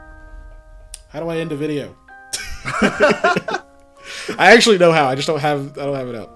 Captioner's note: laughs